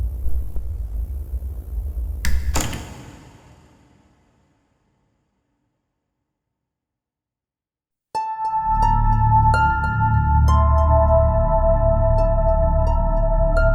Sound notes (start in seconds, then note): 2.2 switch clicks; 8.2 peculiar music